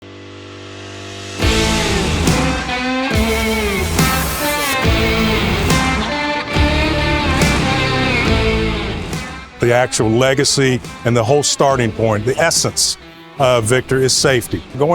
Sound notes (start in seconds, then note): 0.2 machinery whirring; 0.2 upbeat music